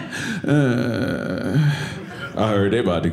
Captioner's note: annoyed sound